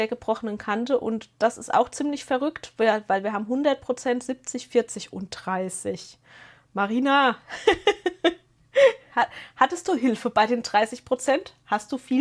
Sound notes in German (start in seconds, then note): 7.5 gelächter